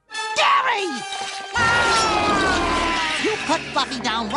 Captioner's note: gary whines as puffy fluffy growls